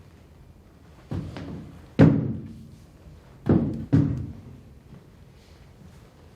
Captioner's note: footsteps